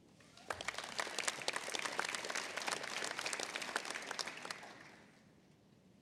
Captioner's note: applause